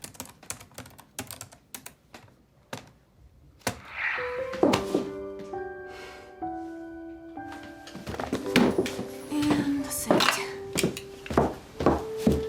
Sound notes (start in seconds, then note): 0.0 typing; 5.8 dropping hands, sighs heavily